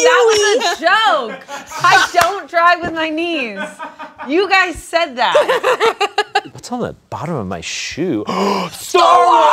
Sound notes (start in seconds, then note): 3.3 laughs